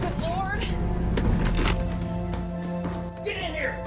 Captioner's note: door crashes open